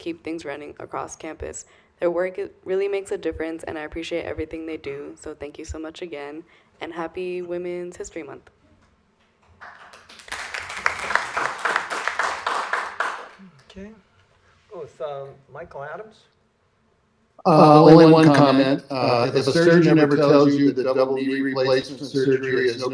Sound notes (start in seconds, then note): 9.5 applause